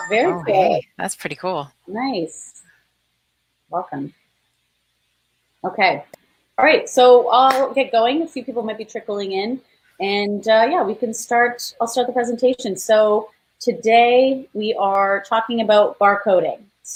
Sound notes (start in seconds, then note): 7.4 claps